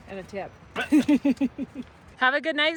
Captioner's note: laughing